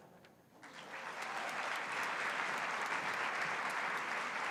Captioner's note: applause